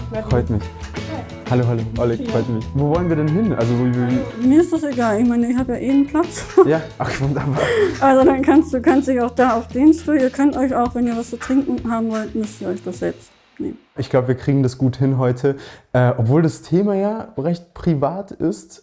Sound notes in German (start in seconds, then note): 7.0 Lachen